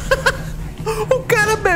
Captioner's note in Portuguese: Risos